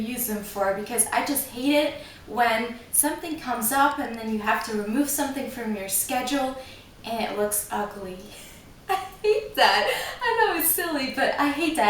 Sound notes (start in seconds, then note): 8.9 laughs